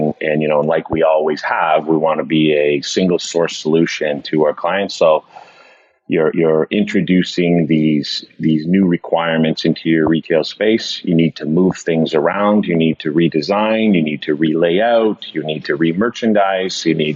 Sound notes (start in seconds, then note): none